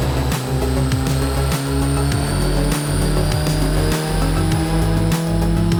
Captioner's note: engine speeds up slowly